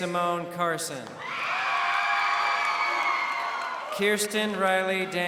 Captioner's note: crowd cheering